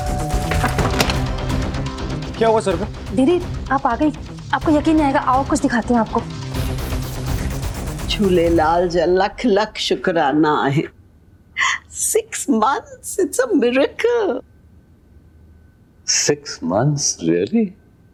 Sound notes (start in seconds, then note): 0.0 knocking on the door